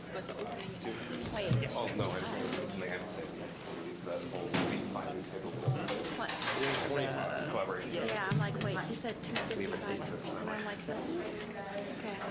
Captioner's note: general chatter